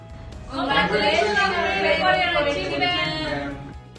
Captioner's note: overlapping chatter